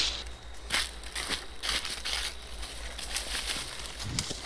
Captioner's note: walking, rustling